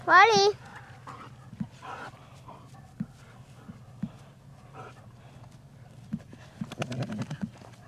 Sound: dogs barking

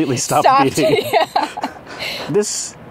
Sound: laughing

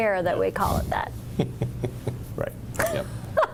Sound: laughs

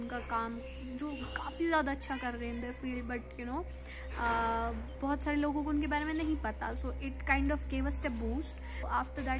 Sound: urdu

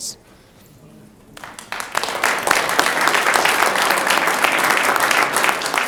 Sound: audience applauds

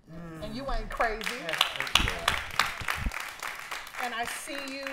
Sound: applause

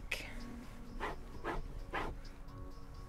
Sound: scratching sounds

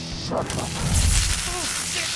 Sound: electric zap

